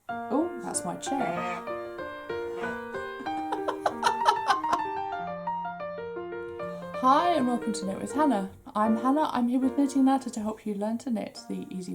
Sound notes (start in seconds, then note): 0.9 laughs; 1.1 squeaks